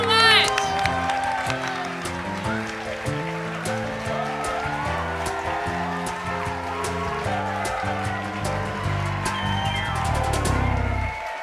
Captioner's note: applause